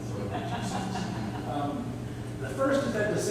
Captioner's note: laughter